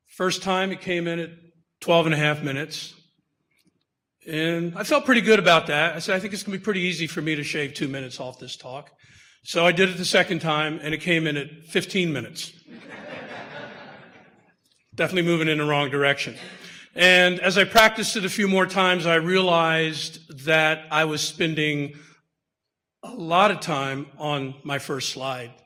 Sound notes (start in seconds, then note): 12.7 audience laughter